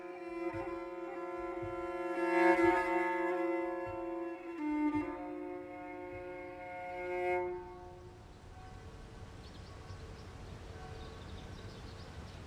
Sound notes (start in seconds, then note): 0.2 mournful music; 8.1 birds chirp